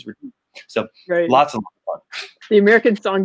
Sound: mic cuts out

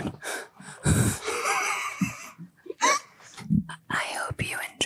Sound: all laughing

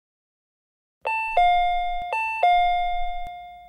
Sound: door chime

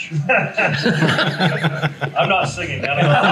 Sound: everyone laughs

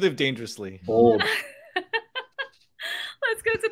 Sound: laughs

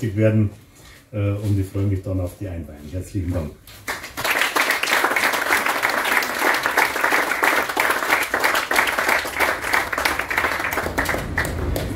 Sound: applause

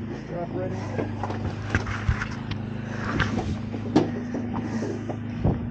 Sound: boat engine

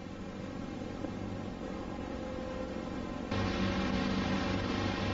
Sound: VHS static

